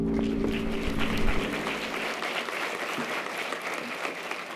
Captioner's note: audience applause